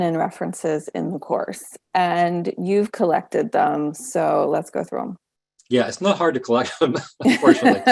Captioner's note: both laughing